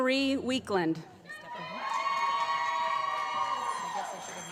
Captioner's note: applause